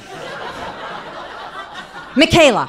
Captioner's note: audience laughing